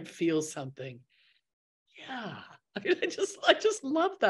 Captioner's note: laughs